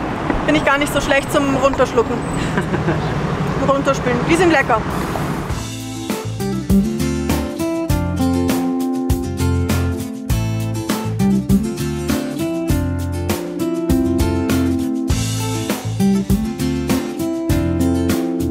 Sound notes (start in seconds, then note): 2.4 laughs